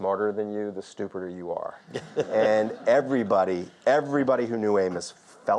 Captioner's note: audience laughs